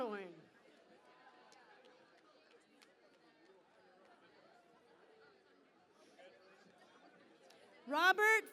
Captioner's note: cheering and Applause